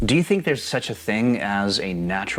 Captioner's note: air whooshing